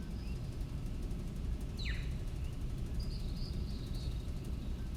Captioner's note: low rumble of machines